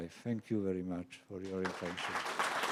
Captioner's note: applause